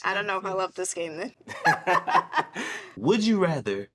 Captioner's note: laughs